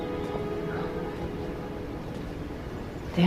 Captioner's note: whispering